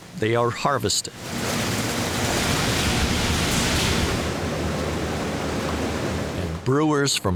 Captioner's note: harvesting sounds